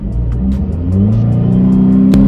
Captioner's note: engine sound....revs increase sharply